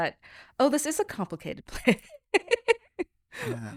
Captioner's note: laughs